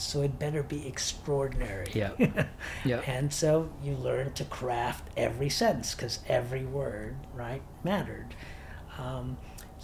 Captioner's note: laughs